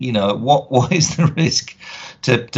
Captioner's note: laughing